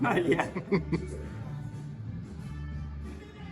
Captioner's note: laugh